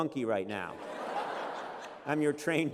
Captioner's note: laughter